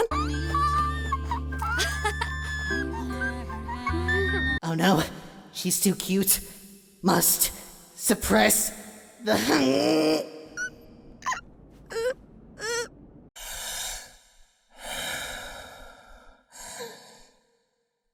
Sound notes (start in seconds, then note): 10.4 Baby Zero-Two crying; 14.7 breathes in; 14.8 breathes out; 16.4 breathes in